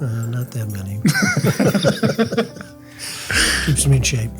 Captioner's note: group laughs